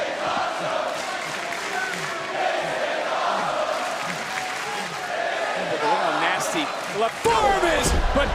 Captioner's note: crowd chants "this is awesome"